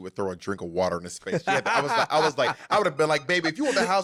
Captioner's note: laughing